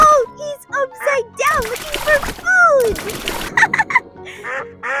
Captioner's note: laughs